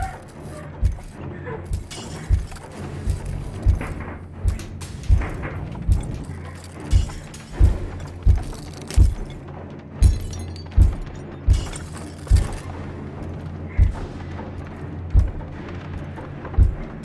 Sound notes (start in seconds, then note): 0.0 Heather panting; 0.2 intense music; 9.8 intense music; 10.0 glass crunching